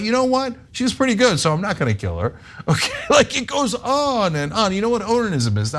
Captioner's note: laugh